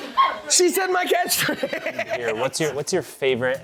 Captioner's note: laughs